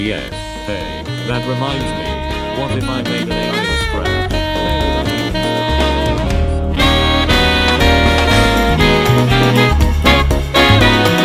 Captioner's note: yapping fades away